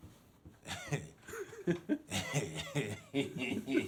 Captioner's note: chuckling